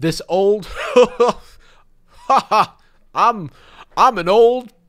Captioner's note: laughing like an old man